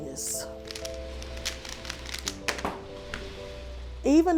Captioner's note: Rubik's cube shuffling